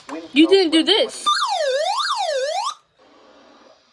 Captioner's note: siren